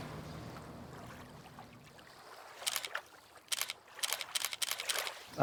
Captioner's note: water splashing